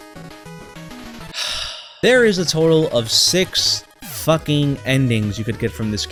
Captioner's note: sigh